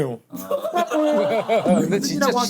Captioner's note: laughing